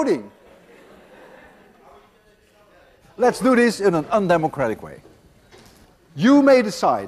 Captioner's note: class laughs